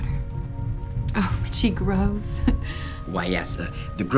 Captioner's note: laughs lovingly